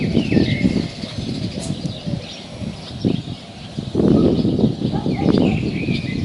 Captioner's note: birds are singing